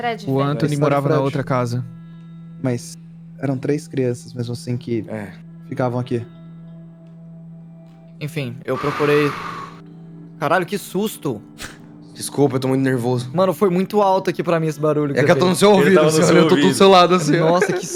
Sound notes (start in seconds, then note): 8.7 blows air loudly; 17.0 laughs